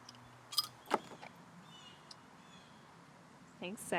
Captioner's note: bottle cap rattles